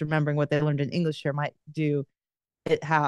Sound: none

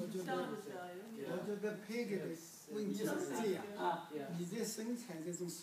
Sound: speaking foreign language

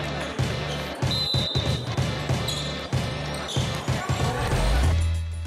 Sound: whistle blowing

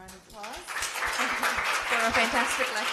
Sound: applause

